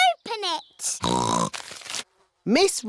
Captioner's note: snorts